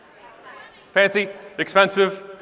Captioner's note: audience talking over each other